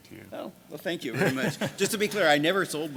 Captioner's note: laughs